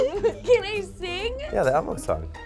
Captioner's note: laughs